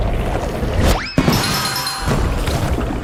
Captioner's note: bell dings